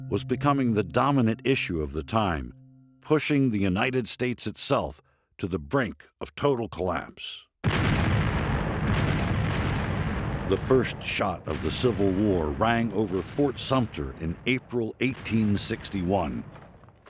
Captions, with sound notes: was becoming the dominant issue of the time, pushing the United States itself to the brink of total collapse. (gunshots banging) The first shot of the Civil War rang over Fort Sumter in April, 1861.